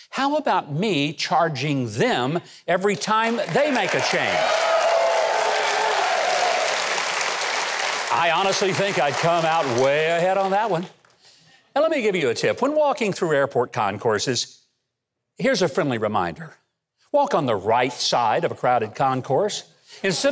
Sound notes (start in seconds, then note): 5.2 audience applause